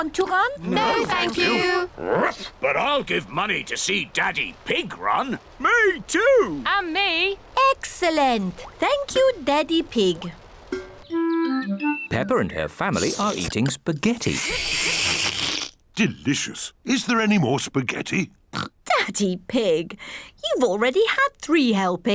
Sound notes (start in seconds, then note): 1.8 barks; 12.9 slurps; 18.0 oinks